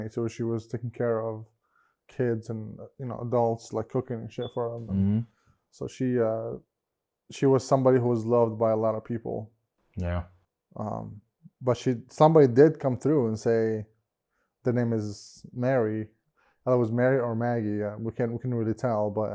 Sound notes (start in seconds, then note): none